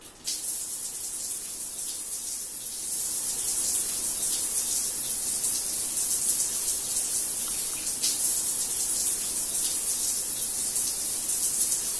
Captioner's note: water drops hitting the floor